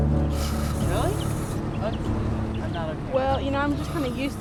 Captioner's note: sound of bug spray